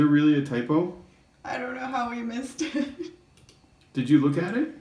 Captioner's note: laughing